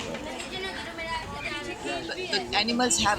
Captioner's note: far kid voices